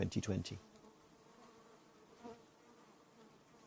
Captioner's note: bees hum